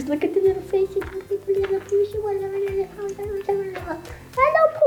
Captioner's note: speaking in gibberish